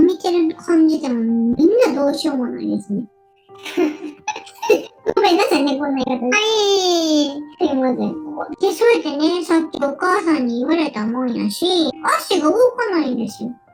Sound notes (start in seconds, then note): 3.6 laugh